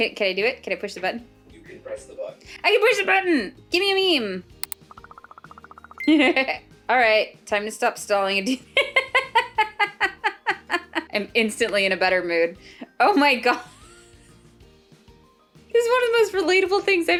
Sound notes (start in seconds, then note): 8.8 laughs; 13.6 laughs Again